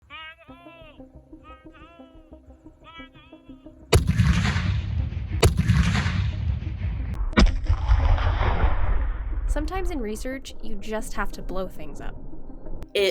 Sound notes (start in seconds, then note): 0.0 man yelling; 3.9 cannon fires